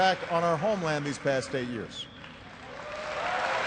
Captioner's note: applause